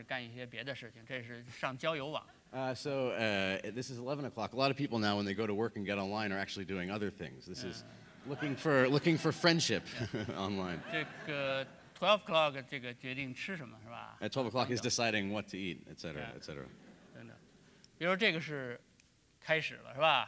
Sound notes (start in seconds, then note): 8.0 speaking in Chinese; 9.7 laughs; 11.9 speaking in Chinese